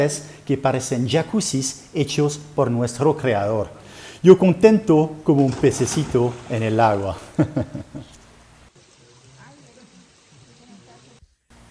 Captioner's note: laughter